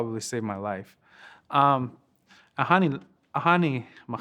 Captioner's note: speaking Lakota